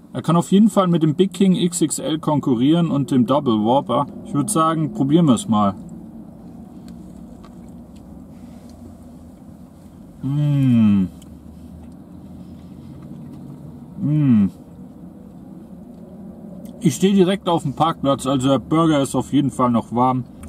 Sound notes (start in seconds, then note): 10.2 mouthgasmic noises; 13.9 mmhhmm